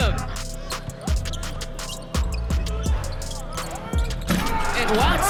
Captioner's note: tense energetic music; sneakers squeaking